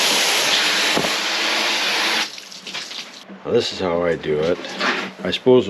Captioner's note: water blasting